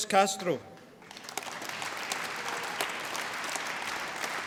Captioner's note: applause